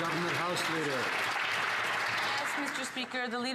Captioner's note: some Applause